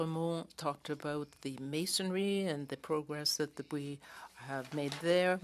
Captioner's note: speaking French